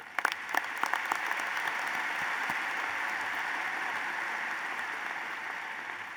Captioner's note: applause